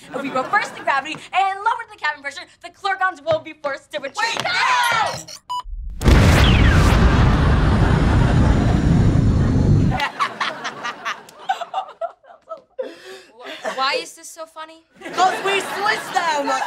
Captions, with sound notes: If we reverse the gravity and lower the cabin pressure, - the Clergons will be forced to retreat. - Wait, no! [explosion] [laughing] Why is this so funny? 'Cause we switched them!